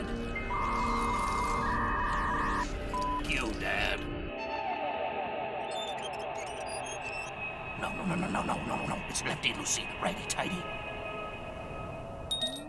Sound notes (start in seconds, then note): 2.9 beep; 5.8 squeaking light bulb